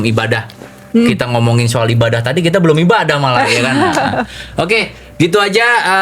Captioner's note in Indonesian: tertawa